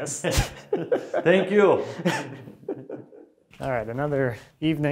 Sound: laughing

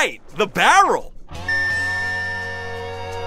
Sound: beeping

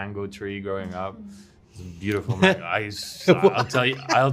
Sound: Owain Laughs

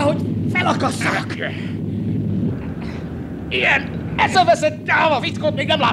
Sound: none

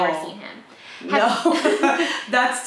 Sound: both laughing

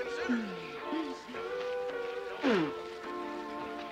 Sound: Shelia spitting

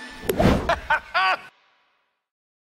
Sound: laughing

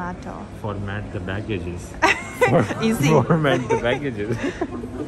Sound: chuckles

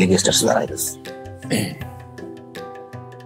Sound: clear throats

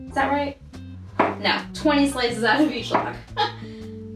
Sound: laughs

